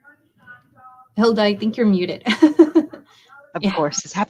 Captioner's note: chuckles